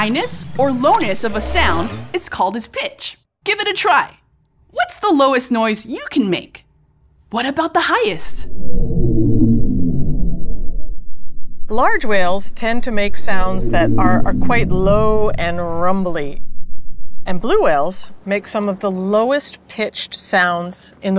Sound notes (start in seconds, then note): 8.4 deep blue whale calls